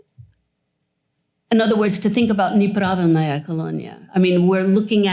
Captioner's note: non-english